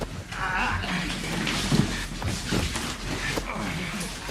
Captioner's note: Robert grunting